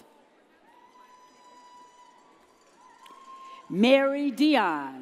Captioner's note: audience cheers